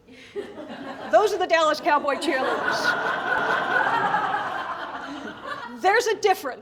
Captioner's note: laughter; laughter